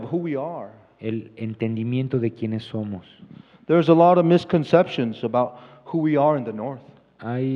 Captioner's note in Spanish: Expositor habla en inglés